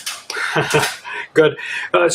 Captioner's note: laughs